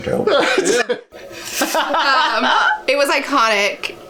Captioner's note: laughing